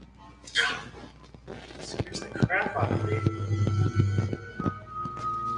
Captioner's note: phone buzzing